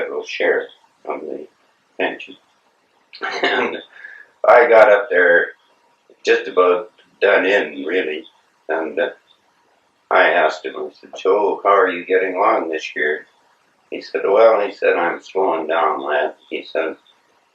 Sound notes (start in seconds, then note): 3.2 laugh